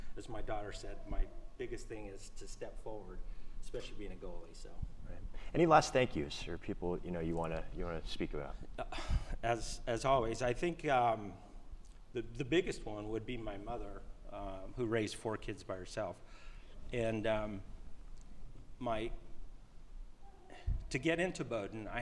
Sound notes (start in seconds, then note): none